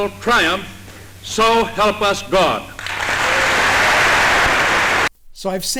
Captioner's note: crowd claps